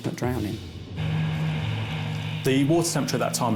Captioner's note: lifeboat engine whirring